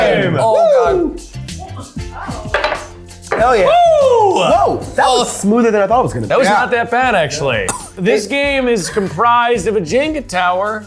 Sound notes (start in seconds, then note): 2.3 glasses clinking